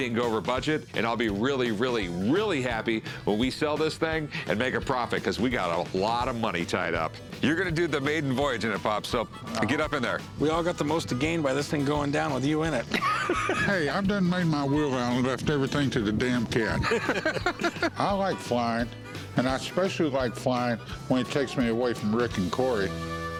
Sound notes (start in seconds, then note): 12.7 laughs; 16.7 laughter